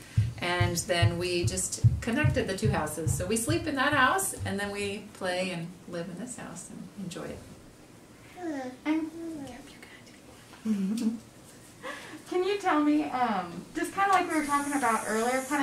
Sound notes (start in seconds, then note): 7.3 whispering; 8.3 child murmuring